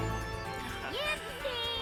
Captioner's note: sounds of a little glade